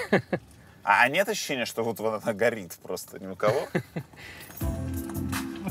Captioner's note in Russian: смеётся; смеётся